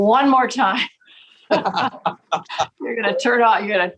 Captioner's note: laughing